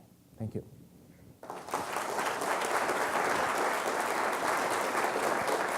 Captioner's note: audience applauding